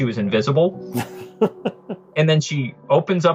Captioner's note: laughs